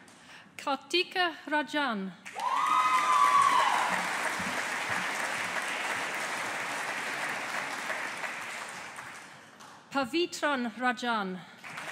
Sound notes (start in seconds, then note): 2.3 audience applauding; 11.6 audience applauding